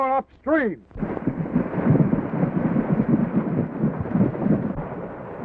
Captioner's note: horses galloping in water